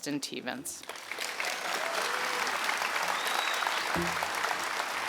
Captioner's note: audience clapping